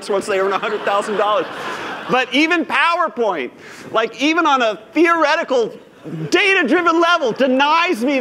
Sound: laughter

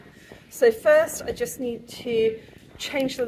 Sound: none

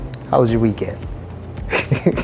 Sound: laughs

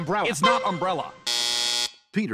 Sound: buzzer

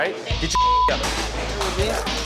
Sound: crowd talking; beep

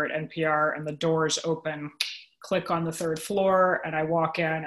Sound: clicks

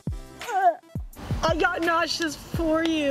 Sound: gagging

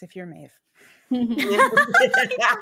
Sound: all laughing

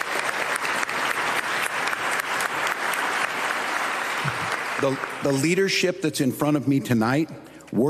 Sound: applause

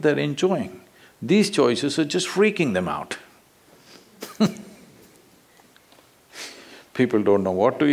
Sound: laughs

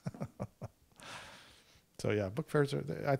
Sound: chuckles

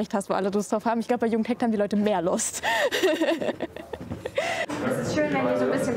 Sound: laughs

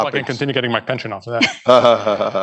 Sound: laughter

